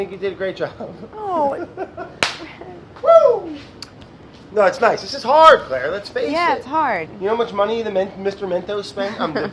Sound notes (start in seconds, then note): 2.2 claps; 2.9 whooping